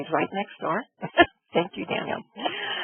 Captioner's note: laughs